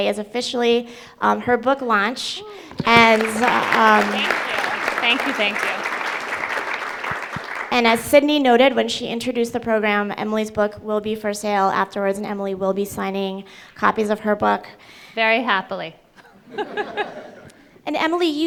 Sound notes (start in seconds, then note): 2.6 audience applauds